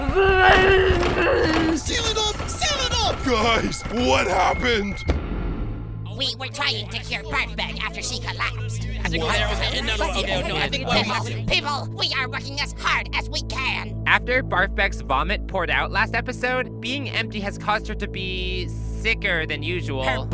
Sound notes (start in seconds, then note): 0.0 angry babbling; 0.0 grunting noises; 8.5 chattering, yelling frantically